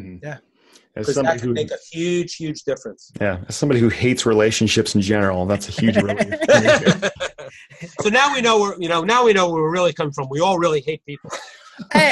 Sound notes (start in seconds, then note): 6.9 laughing